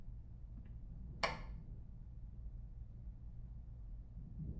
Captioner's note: switch clicks